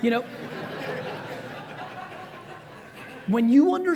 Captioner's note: audience laughs